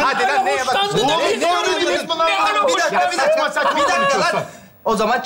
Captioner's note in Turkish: aynı anda bağrışmalar